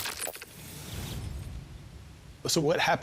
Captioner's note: wooshing